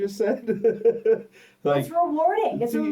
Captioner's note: laughs